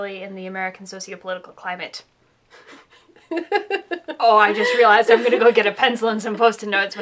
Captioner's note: laughter